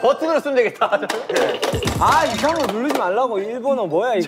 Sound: endless typing

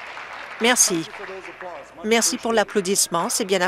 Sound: applause

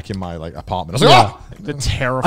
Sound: yells

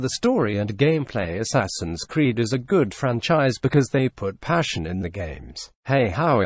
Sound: automated Voice

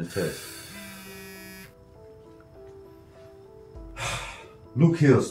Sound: phone buzzing; soft music

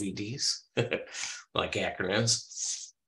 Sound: laughs

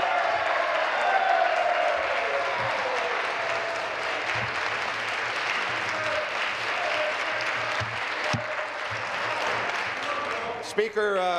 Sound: applause

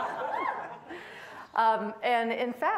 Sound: laughing; audience laughing

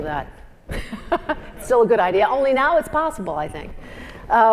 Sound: laugh

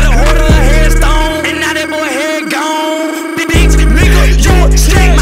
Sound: brrrr

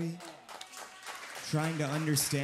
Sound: audience cheering

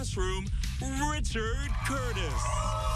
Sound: cheers and applause

